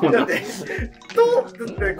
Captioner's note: laughing